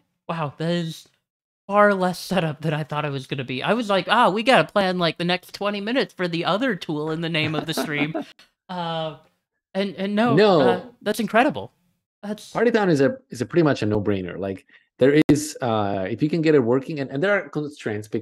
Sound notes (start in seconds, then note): 7.4 laughs